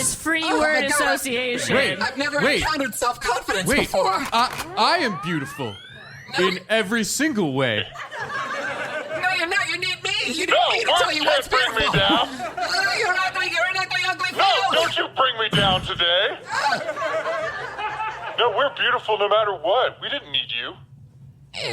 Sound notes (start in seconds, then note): 4.2 SFX: Clint racks his blaster; 8.0 audience laughter grows